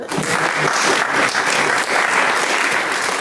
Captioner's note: applause